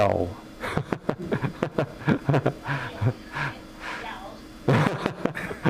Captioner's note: laughing